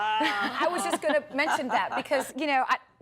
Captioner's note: laughter